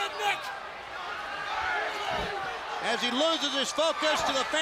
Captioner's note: crowd chatter